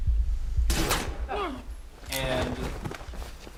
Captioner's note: gunshot